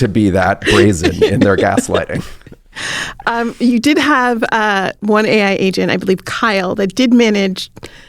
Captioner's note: laughs